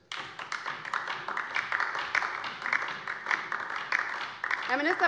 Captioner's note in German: Beifall DIE LINKE